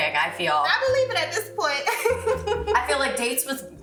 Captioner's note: laughs